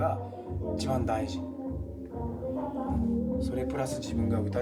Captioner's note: speaking in foreign language